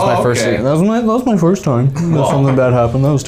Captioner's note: silly voice acting